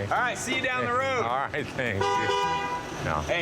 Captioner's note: vehicle honks